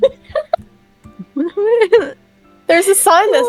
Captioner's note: giggles; sad and/or confused noises